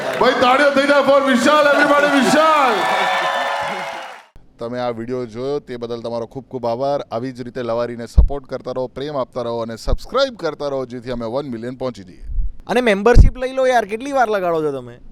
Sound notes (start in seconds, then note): 2.9 crowd applauding